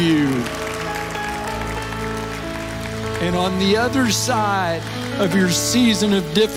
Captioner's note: audience Applauses